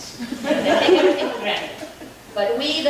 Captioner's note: audience laughing